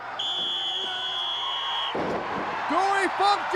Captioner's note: whistle trills; crowd cheers